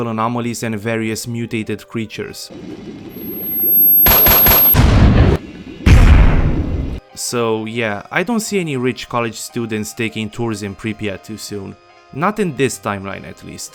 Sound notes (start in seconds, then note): 3.1 high pitched noises, Controller, uhm, CONTROLLING you